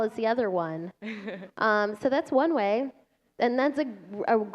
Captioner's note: laughter